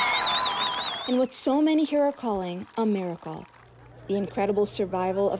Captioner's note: cheers and Applause